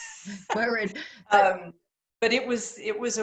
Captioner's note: laughter